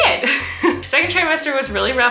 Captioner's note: laughing